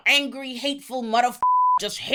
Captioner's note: beep